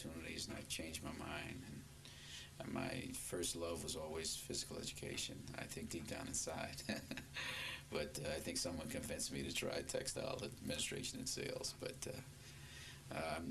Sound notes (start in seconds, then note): 6.8 laughs